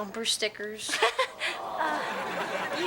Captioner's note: Tanya laughs; audience awes